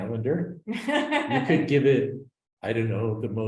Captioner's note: laughs